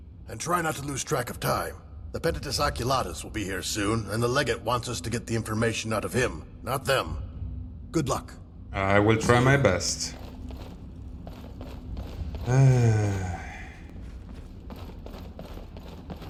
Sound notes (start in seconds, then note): 12.4 sigh